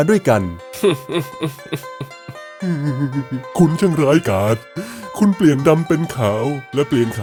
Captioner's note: choking back tears